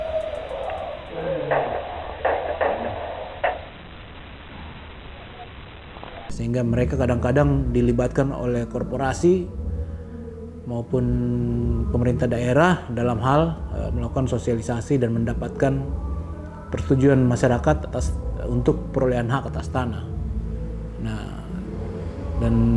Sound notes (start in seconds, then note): 2.2 gun shots